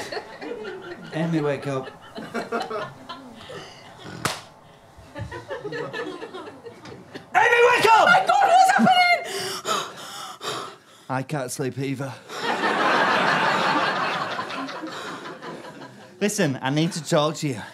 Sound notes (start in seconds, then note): 12.2 audience laughter